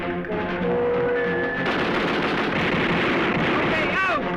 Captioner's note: gunfire